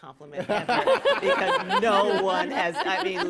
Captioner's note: laughter